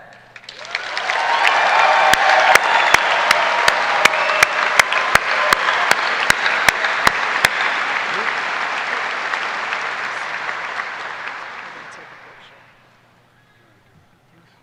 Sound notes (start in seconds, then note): 3.0 cheers and applause